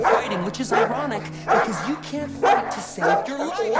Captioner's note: dog barking